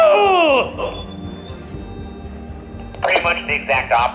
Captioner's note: REM-Pod beeping